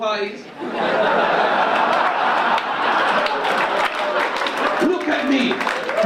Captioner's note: audience laugh and cheer